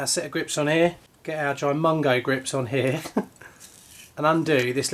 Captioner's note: laughs